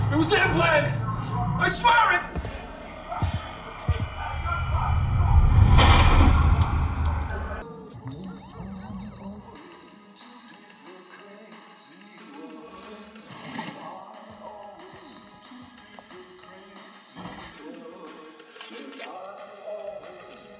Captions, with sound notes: It was their plan, I swear it. (gun firing) (light humming)